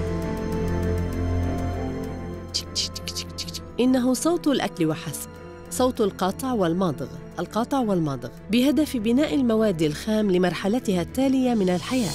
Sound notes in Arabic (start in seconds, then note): 2.2 تقلد أصوات المضغ